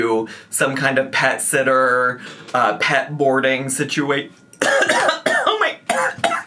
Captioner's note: coughs